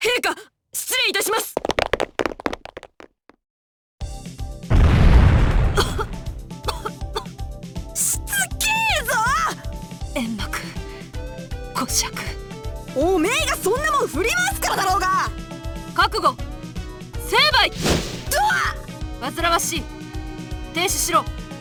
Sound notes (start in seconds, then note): 6.6 coughs